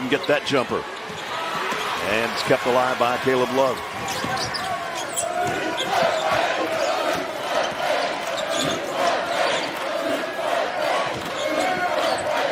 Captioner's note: cheering